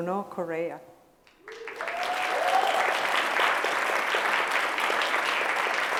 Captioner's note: cheers and applause